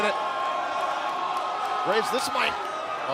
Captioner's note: crowd cheering